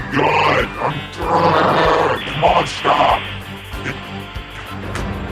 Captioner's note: growls